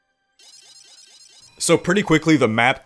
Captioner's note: computer rapidly beeping